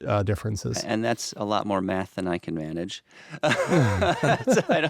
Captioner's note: laughing